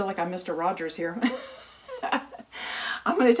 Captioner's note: laughing